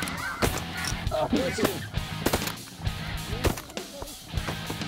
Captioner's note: gun shots